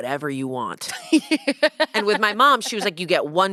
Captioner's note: laughs